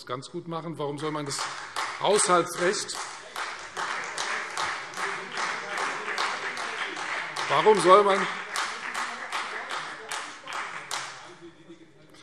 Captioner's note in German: Beifall Freie Demokraten und vereinzelt SPD